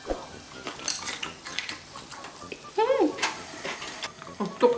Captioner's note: crunch Crunch